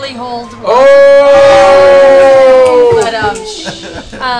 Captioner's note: groans and laughter